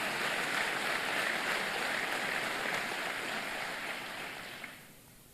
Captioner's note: applause